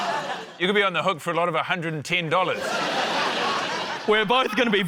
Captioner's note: laughter